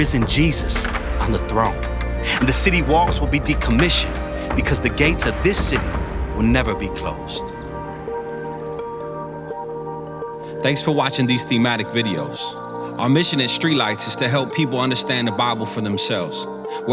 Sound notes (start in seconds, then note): 7.8 birds chirping; 7.8 tranquil music